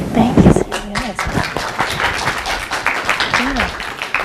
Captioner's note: applause